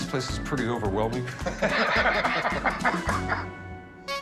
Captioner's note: laughter